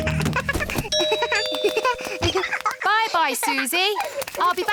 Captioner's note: giggles; rings doorbell